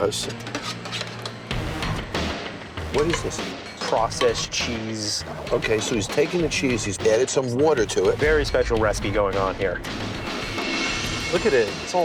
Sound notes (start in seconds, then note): 0.4 spoon scraping